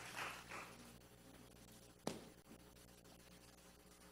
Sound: applause

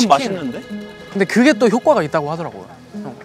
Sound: chicken effects

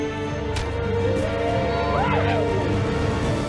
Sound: crowd Cheers

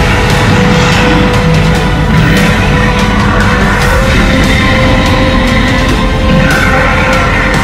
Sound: all Roaring

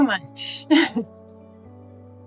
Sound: chuckles; soft music

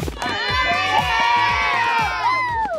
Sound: indistinct cheering

